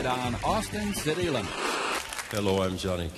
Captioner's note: TV static